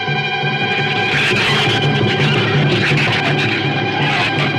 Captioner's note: shrews screech